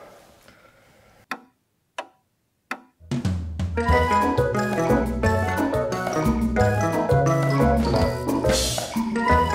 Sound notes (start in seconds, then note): 1.1 clock ticks; 3.0 playful music